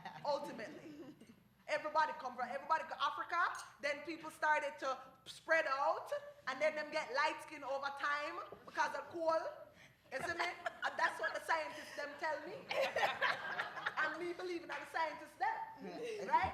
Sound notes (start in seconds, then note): 0.0 laughter; 12.8 laughter